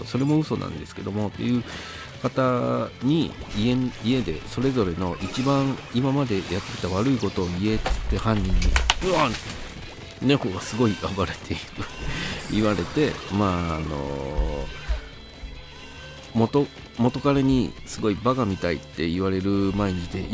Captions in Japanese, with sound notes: それも嘘なんですけどもっていう方に 家でそれぞれの一番今までやってきた 悪いことを言えって犯人に （ガタガタ）うわ猫が凄い暴れている 言われて元彼にすごいバカみたいって言われる毎日で